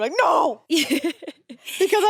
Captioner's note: laughs